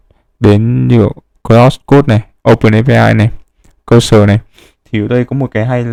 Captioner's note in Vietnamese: khịt mũi